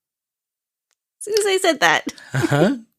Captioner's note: laughter